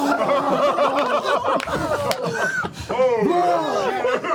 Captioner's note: laughter